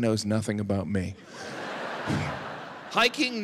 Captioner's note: audience laughing